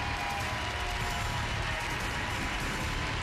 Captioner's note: applause